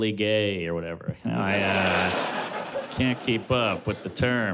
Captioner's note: laughter